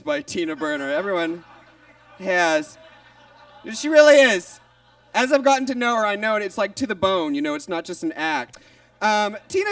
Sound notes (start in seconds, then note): 2.9 audience laughs